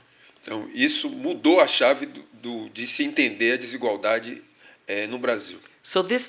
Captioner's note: speaking portuguese